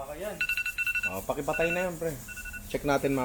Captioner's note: alarm ringing